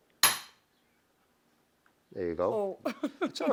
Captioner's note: hammering; laughing